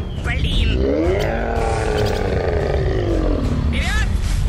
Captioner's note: roaring